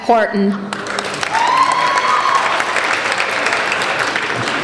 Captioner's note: applauding